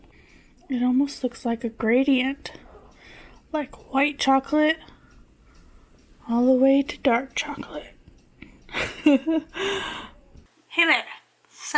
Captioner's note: laughs